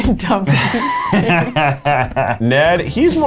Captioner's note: laughs